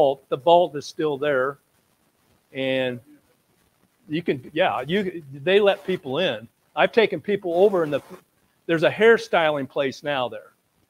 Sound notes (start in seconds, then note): none